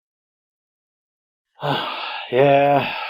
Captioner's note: yawns